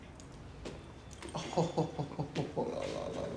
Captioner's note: chuckles